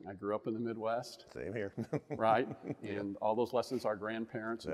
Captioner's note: laughing